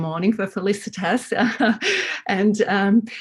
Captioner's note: laughs